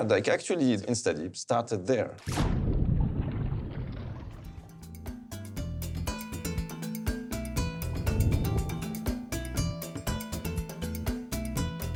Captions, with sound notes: Actually InstaDeep started there. (deep water splashing) (water bubbling) (upbeat guitar music) (logo whooshing)